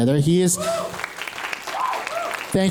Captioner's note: applause